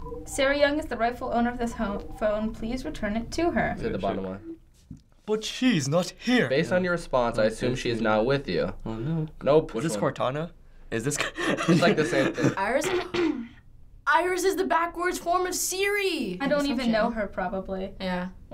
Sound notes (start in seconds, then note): 5.0 theatrical accent; 12.8 clears throat